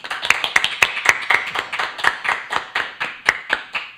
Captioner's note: applause